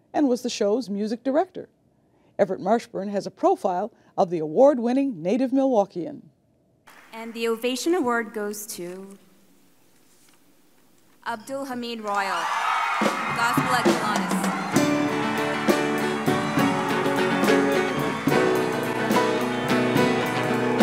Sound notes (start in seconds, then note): 12.8 crowd cheering and clapping; 14.6 mellow orchestral music